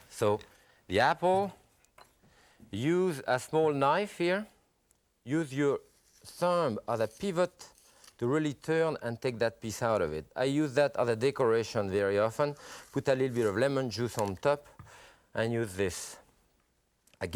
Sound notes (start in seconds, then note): none